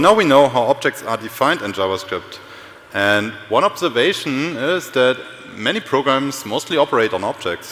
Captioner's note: sound feed distorted